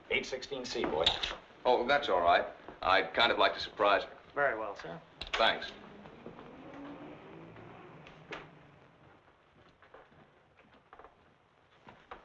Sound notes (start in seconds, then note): 5.4 vehicle droning; 6.4 door thumping